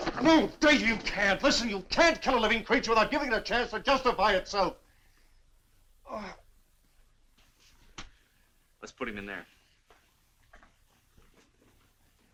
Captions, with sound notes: - No, Dave, you can't! Listen, you can't kill a living creature without giving it a chance to justify itself! (groans) - Let's put him in there.